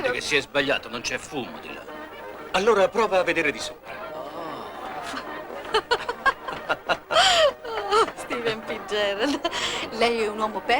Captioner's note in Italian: Risate